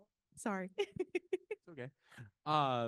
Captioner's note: laughing